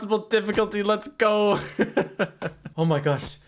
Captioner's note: laughs